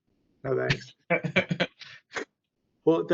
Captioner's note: laughs